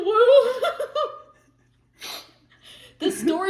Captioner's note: laughter